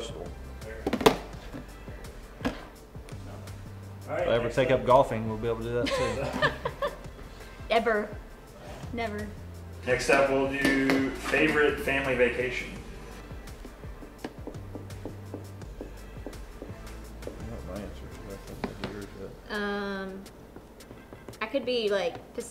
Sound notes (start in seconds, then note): 7.4 laughing; 14.1 tapping sounds